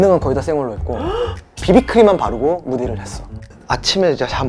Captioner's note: shocked